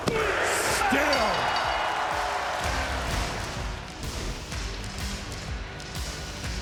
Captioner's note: audience cheering; upbeat music